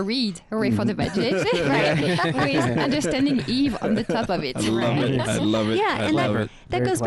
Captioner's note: laughing